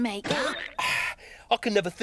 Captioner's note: hammer banging